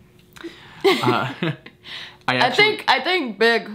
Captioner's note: laughs